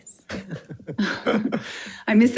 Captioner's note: participants laughing